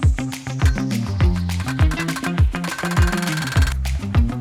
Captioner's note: lively music; tool tinkling